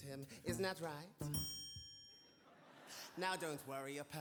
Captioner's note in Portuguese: bell dings